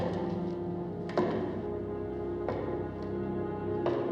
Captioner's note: footsteps